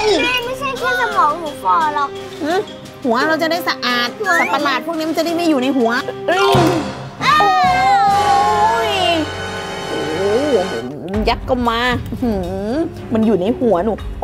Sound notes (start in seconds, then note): 7.2 scream